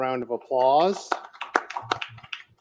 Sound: audience applauds

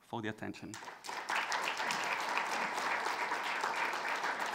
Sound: audience applauds

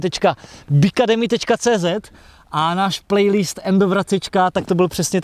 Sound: Czech language only

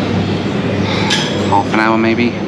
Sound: sighs

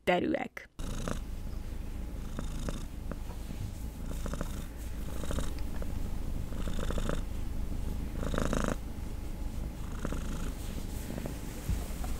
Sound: cat purring

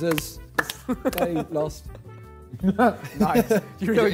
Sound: men laugh

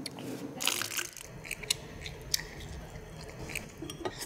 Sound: squirting

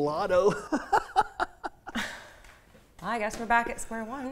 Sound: laughs

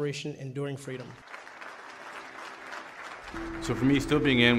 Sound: audience applauds

